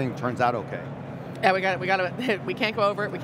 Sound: chuckles

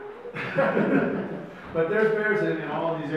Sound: audience laughs

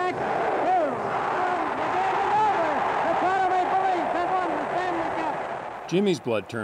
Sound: cheers and Applause

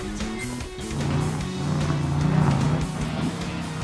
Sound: revving

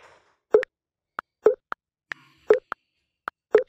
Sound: phone message sound

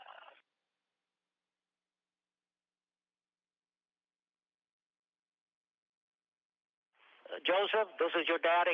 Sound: silence

